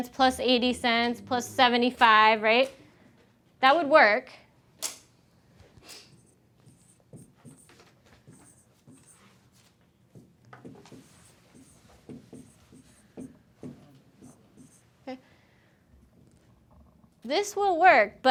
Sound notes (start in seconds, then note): 6.6 stylus scratching